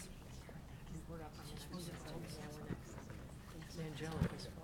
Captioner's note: people chattering